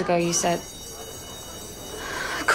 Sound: school bell

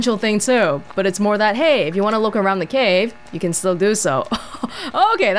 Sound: chuckles

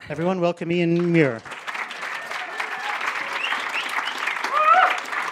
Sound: audience applauding

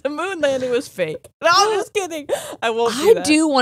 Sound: gasps

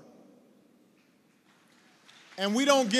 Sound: applause

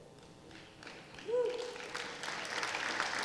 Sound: applause

